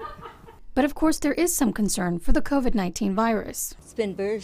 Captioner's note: laughs